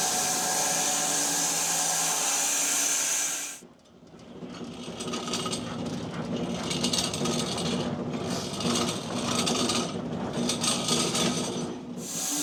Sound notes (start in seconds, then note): 4.5 saw rattling